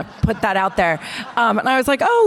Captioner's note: audience laughter